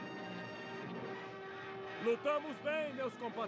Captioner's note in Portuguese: aplausos